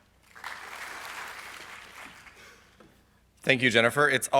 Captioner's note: audience claps